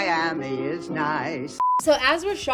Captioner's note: screen beeps